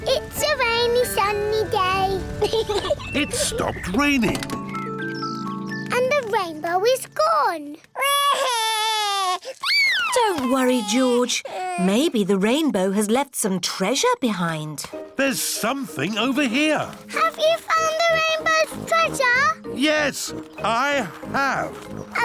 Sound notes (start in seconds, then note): 2.4 peppa pig laughs; 8.0 cries